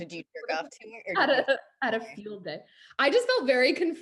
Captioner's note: laughs